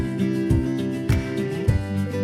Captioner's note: applause